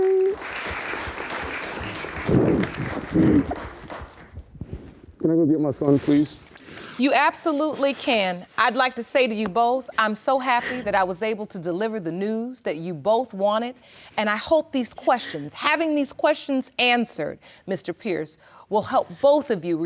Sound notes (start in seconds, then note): 3.2 crying